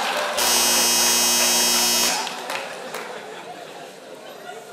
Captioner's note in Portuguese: campainha